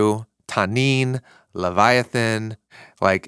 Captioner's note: speaking in foreign language